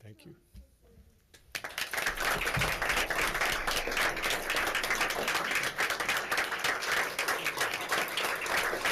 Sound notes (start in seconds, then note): 1.3 claps